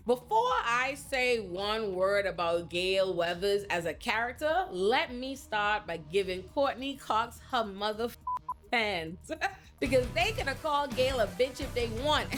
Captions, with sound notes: Before I say one word about Gail Weathers as a character, let me start by giving Courtney Cox her mother (beep) fans, because they gonna call Gail a bitch if they want,